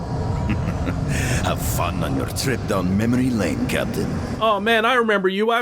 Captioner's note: chuckling